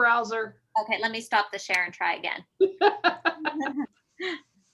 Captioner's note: general laughter